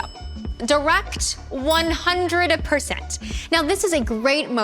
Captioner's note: bell dings